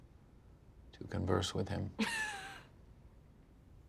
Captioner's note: laughs